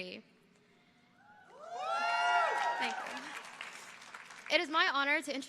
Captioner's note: audience cheering